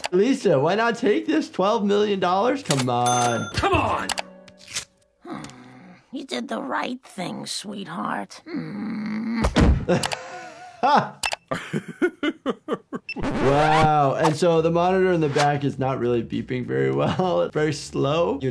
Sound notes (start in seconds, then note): 9.5 body hitting ground; 11.5 Dr. Hibbert laughing; 11.5 laughing